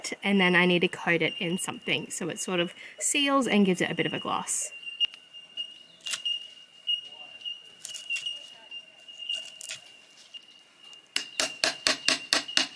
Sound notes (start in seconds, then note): 6.2 wood cracks; 11.1 hammer tapping